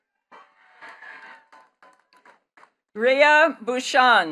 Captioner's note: attendees cheering and clapping